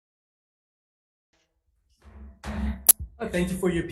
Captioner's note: gavel bangs